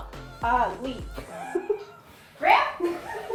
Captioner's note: laughs